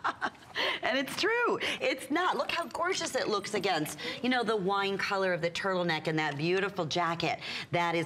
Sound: laughter

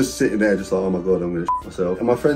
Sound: beep

